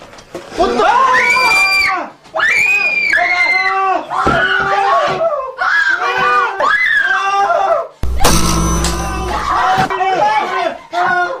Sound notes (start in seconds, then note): 0.6 screaming